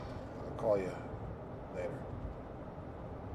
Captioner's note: none